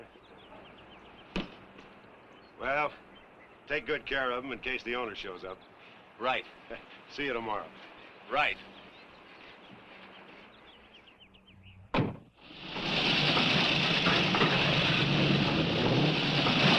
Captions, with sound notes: - Well, take good care of them in case the owner shows up. - Right. - See you tomorrow. - Right. (engines revving)